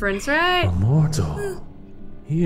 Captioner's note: game audio